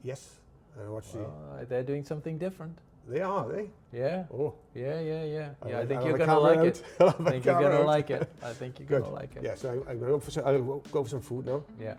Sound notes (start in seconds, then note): 6.8 chuckles